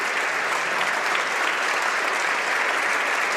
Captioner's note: applause